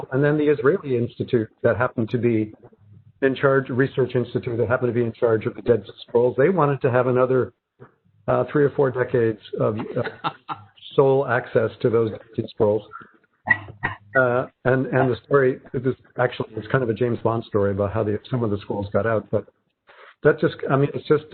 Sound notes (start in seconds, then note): 9.6 laughing